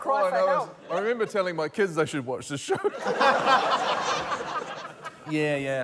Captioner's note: laughter